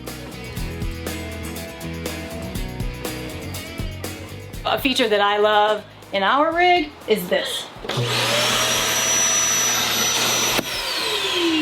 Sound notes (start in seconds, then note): 0.0 upbeat music; 7.8 vacuum suction